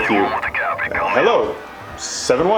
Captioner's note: interference